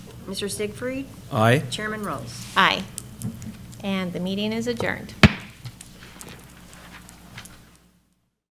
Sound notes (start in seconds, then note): 5.2 gavel banging